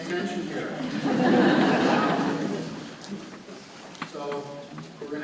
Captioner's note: audience laughing